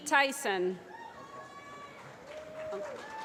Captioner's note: applause